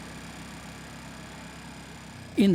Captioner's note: motor running